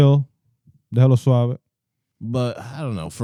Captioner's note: speaking In Foreign Language